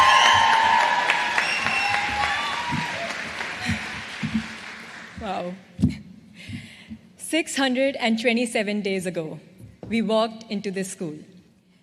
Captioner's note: cheers and applause